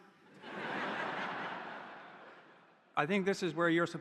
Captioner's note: audience laughing